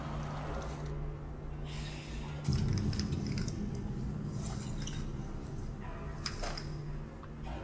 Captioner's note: pipes clanking; ominous music